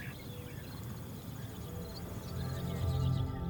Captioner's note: birds chirping; serene music